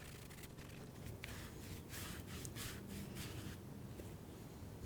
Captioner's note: brushing